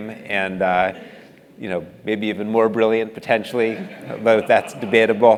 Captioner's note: laugh